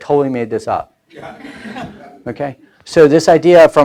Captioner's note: laughing